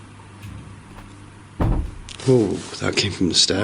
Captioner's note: low thuds